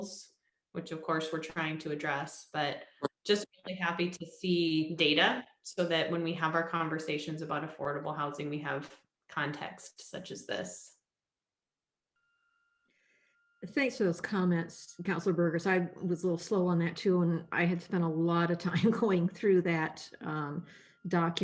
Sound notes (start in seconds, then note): 18.2 laughter